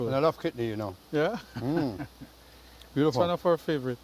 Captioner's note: laughs